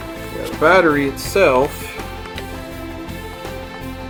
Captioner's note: voiceover